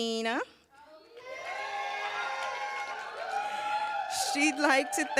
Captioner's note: cheers, applause